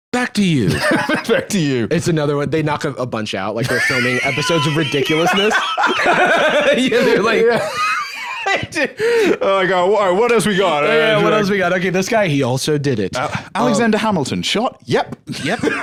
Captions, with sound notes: - "Back to you." - (laughs) "Back to you." They knock a bunch out, like they're filming episodes of Ridiculousness. (both laughing) They do. Oh my God. "What else we got?" "OK, this guy, he also did it." "Alexander Hamilton. Shot? Yep!"